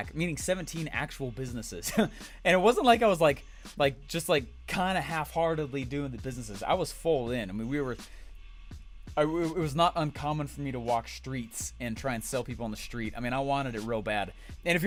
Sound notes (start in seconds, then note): 1.8 chuckled